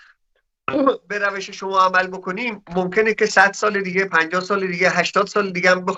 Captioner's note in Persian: گلویش را صاف می‌کند